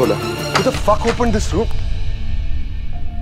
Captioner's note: Door opens